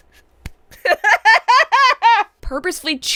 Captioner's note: laughs